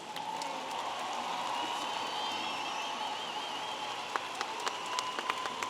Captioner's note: audience applauding and cheering